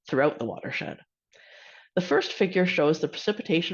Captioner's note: inhales